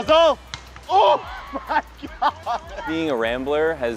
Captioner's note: laughs